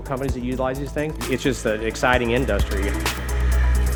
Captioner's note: motor sound